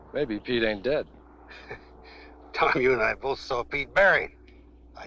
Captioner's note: chuckling